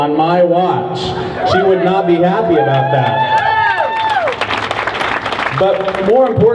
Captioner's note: crowd cheers